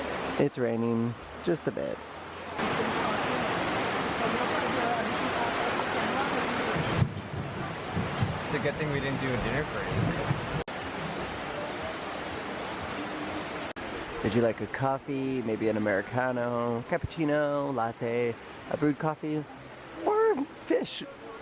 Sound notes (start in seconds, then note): 2.9 sound of a really loud rain pouring down